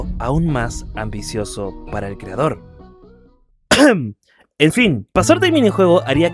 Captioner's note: coughs